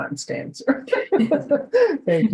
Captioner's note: all laughing